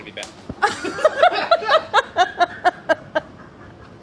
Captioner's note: laughing